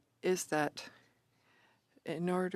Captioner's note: speaking French